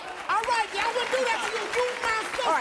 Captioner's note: audience applauding